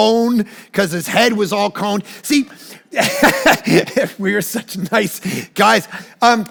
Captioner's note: laughs